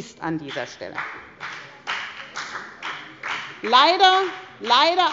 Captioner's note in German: Beifall bei der FDP